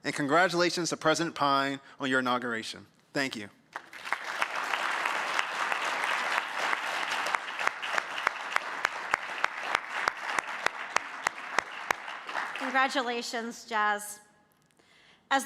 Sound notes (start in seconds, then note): 3.7 clapping; 3.7 audience clapping